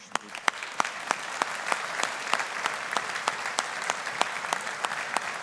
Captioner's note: audience applauding